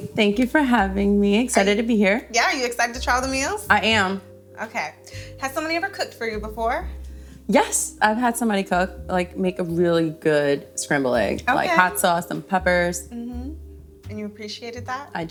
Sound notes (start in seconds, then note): none